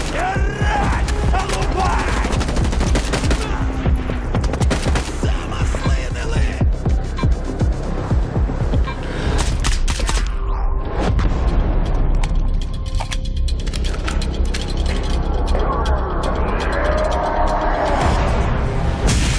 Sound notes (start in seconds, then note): 0.1 in Ukrainian; 5.0 strained voice; 7.3 meter beeping rapidly